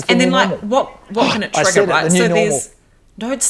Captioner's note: gasping